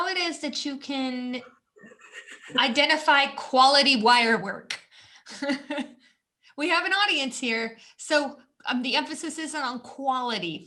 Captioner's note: laughter